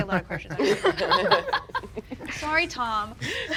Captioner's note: people laughing